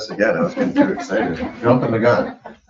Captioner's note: people chuckle